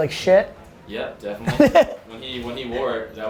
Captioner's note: Gary laughs